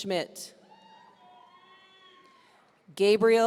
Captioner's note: audience cheering